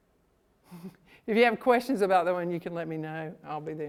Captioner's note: laughs